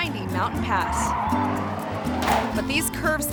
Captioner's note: engine revving